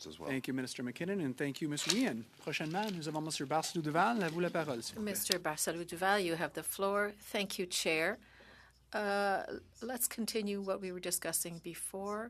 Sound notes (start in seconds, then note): 10.8 speaking in French